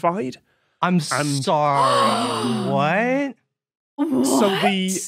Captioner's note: gasps